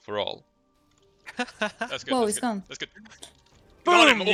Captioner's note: haha